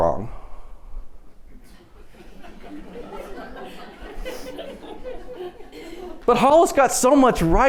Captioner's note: laughter